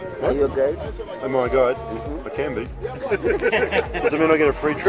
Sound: laughs

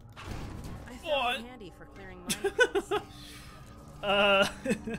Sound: laughing

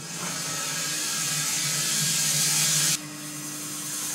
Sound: saw whirring

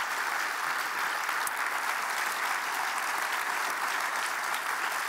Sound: audience applauding

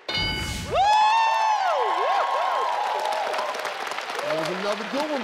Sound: bell dings; family cheering

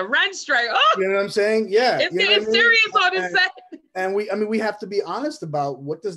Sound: laughs

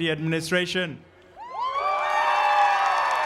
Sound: cheering

